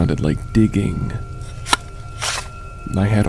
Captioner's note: digging noises